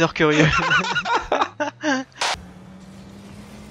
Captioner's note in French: rires